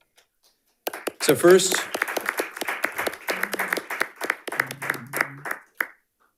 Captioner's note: panelists applauding